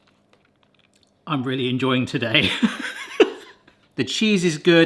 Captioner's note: laughs